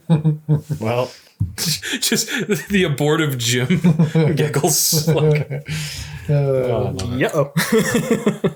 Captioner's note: a bunch of laughing for a bit